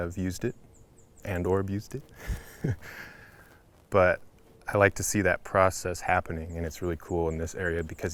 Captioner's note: small chuckle